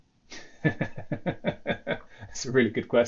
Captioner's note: laughs